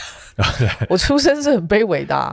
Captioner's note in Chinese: 哈哈哈